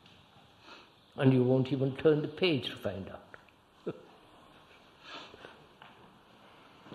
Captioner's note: laughs